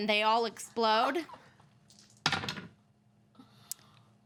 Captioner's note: dice rattle